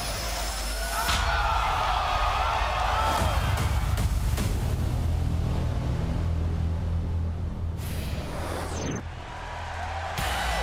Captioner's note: crowd cheering